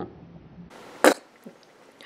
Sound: spits

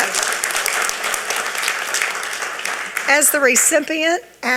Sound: audience applauding

